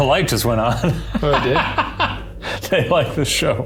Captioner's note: laughing